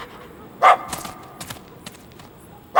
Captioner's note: barks